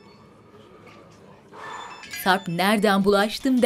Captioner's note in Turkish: Telefon zili